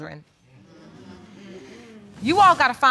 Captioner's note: audience agreeing